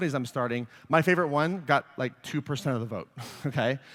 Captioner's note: laughs